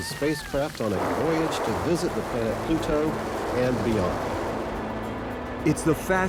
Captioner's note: audience applauds and cheers